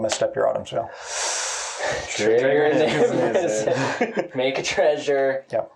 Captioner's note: laughing